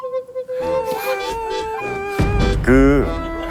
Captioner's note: poof